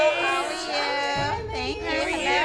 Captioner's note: chatter